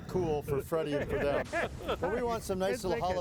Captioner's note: laughing